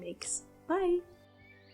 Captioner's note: birds singing in the trees